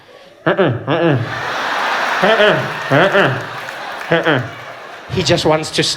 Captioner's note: sound of a vuvuzela